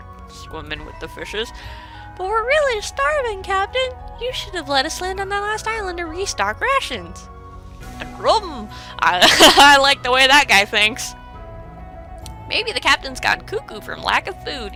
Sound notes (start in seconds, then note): 9.2 laughing